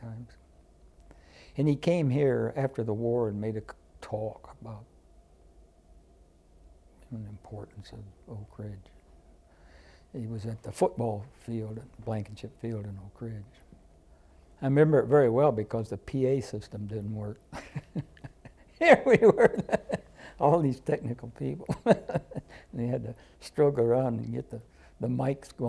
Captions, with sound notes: And he came here after the war and made a talk about the importance of Oak Ridge. He was at the football field, at Blankenship Field, in Oak Ridge. I remember it very well because the PA system didn’t work. [Laughter.] Here we were, all these technical people, and he had to stroke around and get the mikes